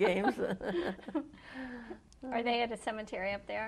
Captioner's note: laughter